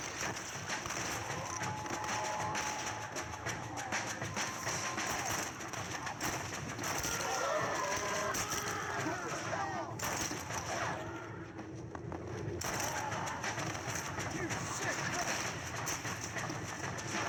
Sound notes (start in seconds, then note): 8.1 sounds of cold blood and shoot